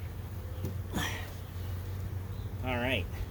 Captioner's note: grunt